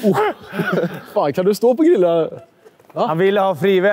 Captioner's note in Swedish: Skratt